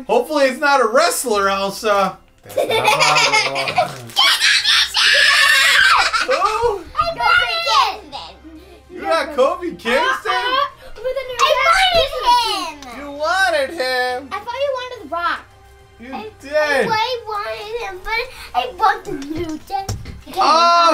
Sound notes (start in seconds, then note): 2.4 laughter; 4.0 joyful shrieking